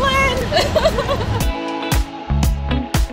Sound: laughing

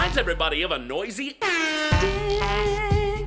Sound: air horn

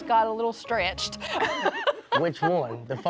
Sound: laughter

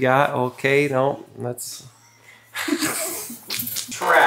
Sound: laughs

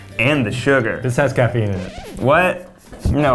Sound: record scratches

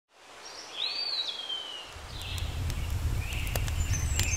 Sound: birds chirping

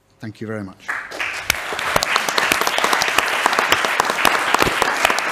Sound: audience applauding

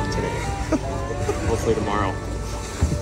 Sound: chuckles

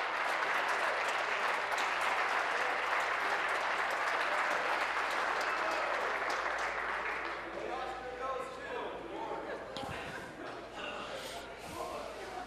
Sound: applause

